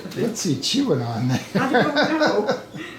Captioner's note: laughing